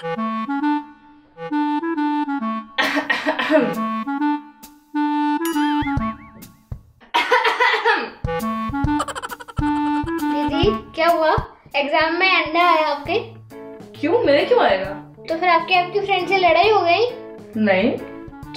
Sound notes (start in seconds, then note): 2.8 coughing; 7.1 coughs loudly